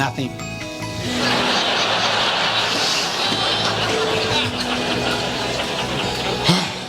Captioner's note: audience laughs; sighs